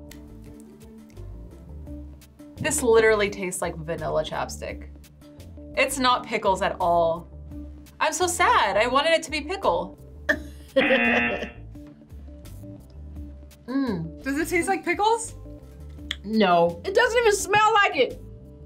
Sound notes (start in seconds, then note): 10.0 buzzer; 10.7 laughs